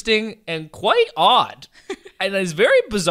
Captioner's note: laughs